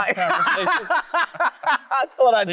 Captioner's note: loud laughter